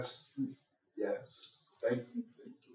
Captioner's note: snaps